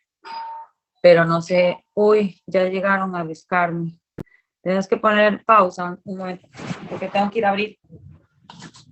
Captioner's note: ringing